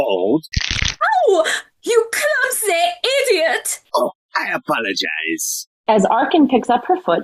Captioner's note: sound of crunching bones